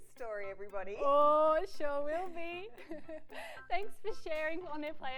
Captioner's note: laughs